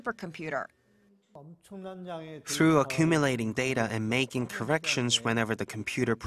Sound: Korean

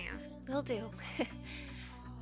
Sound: giggles

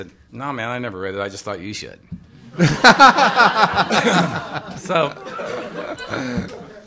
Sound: laughter

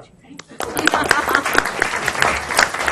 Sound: applause

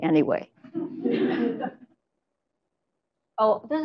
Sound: laughter

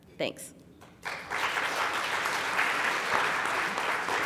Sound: applause

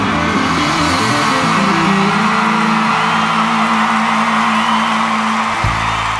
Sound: cheers and applause

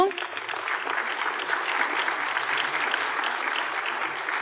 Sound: applause

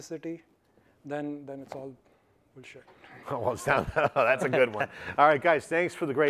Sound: laughs

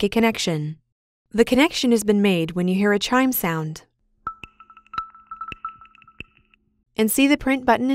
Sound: chime

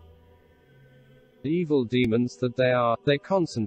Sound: voice reads

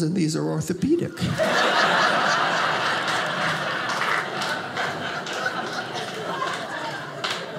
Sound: audience laughing

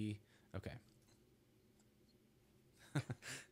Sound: laughs

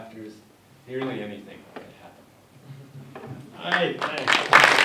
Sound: clapping

